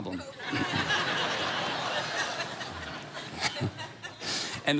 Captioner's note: congregation laughing